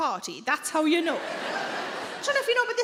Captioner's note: audience laughing